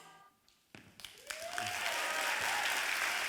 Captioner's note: applause